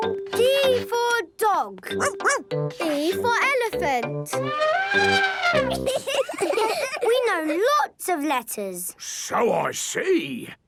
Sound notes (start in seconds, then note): 4.4 trumpets; 4.9 laughing